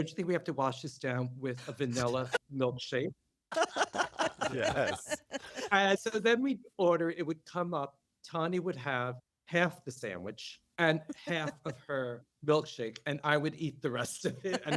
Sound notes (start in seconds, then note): 3.5 laughter